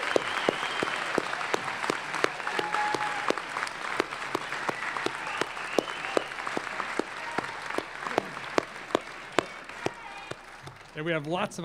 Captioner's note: cheers and applause